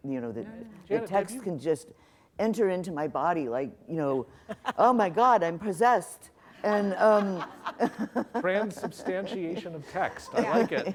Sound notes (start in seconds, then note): 6.7 laughter